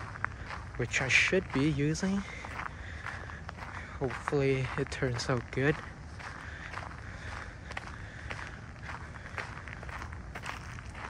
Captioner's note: walking on gravel